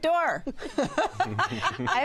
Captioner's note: laughter